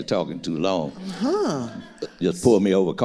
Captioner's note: laughs; audience laughing